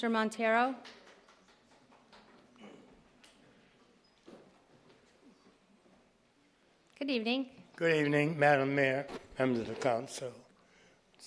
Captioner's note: applause